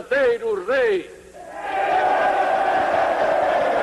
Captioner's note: cheering